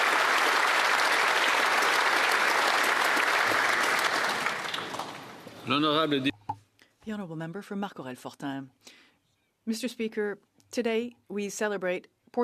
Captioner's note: applause